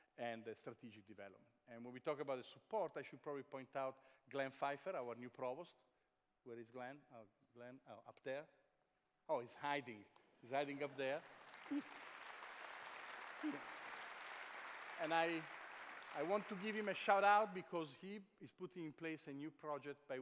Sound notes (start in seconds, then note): 11.3 chuckles; 12.7 applause